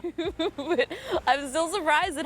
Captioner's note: laughs